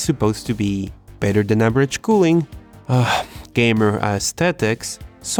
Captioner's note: sigh